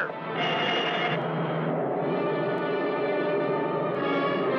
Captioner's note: laser blasting